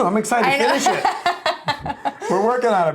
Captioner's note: chuckles